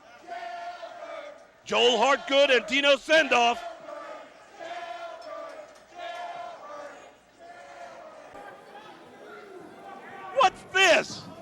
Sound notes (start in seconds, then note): 1.7 crowd chatter; 10.0 crowd cheering